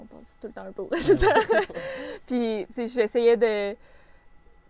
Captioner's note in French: rires